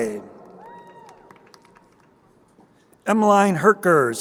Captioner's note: crowd cheering